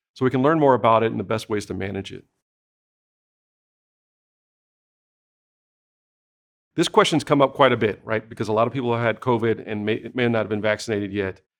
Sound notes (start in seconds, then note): 2.4 silence